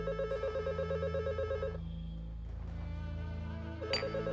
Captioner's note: ring